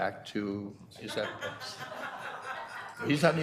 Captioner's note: board members laughing